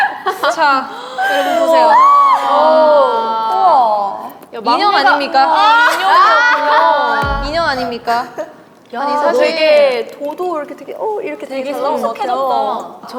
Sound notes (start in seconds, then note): 7.2 massive feedback